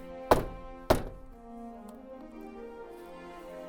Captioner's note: hammer knocking